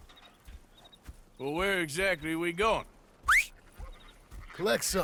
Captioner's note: whistles to his horse